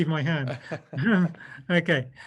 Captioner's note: laughs